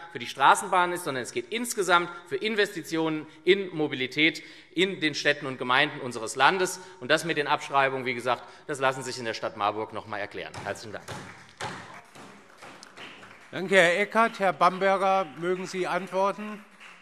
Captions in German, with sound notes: für die Straßenbahnen ist, sondern es geht insgesamt für Investitionen in Mobilität in die Städte und Gemeinden unseres Landes. Den Punkt mit den Abschreibungen lassen Sie sich, wie gesagt, in der Stadt Marburg noch einmal erklären. - Herzlichen Dank. [Beifall SPD] Danke, Herr Eckert. - Herr Bamberger, möchten Sie antworten?